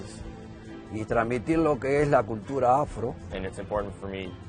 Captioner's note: speaking Spanish